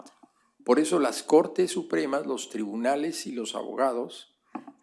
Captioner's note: speaking spanish